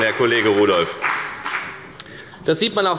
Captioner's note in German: Beifall bei der FDP